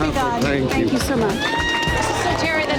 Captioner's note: patrons cheering